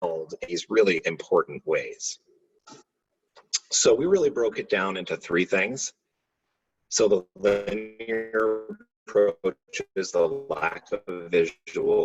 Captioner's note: audio breaking up